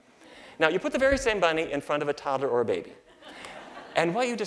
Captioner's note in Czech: Smích